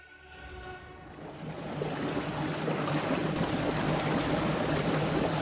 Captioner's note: waves hitting